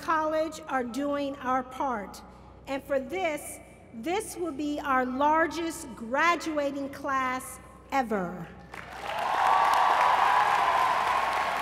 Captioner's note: applause